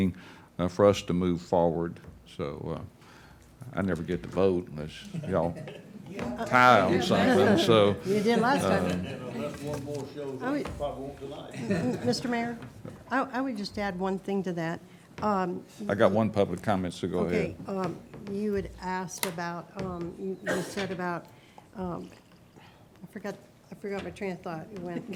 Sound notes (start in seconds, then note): 5.9 laughing; 7.9 people chattering; 24.0 laughing